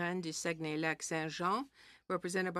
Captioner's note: speaking French